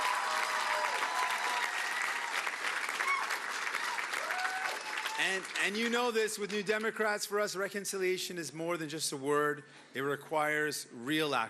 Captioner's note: cheering and Applause